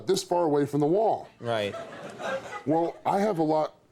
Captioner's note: audience laughs